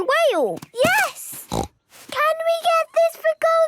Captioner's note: snorts